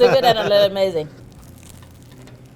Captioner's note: laughter